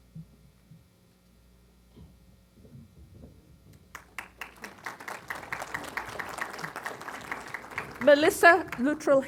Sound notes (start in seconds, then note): 3.9 applause